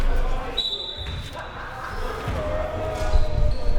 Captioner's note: whistle